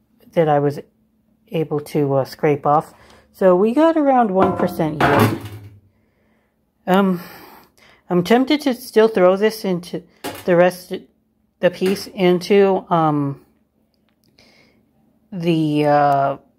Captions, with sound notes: that I was... able to scrape off. So we got around one percent yield. (tray makes a thud sound as it is dropped). Um, I'm tempted to still throw this into the rest... the piece into um... the uh...